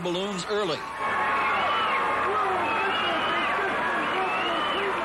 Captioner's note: crowd cheering